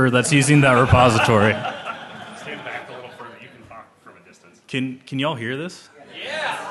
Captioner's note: laughter